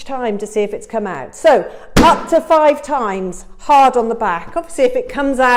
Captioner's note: banging loudly